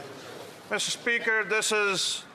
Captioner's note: speaking French